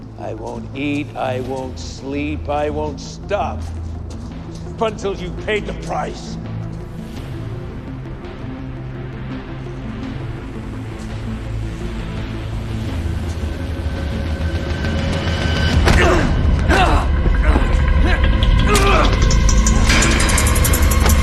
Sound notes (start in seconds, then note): 16.6 grunting